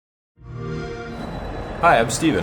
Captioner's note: xbox sound